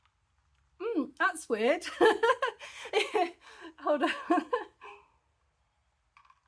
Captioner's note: laughing